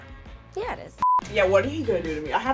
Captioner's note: monotonous high pitch sound